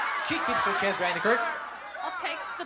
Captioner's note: cheering